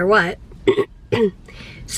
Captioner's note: clearing throat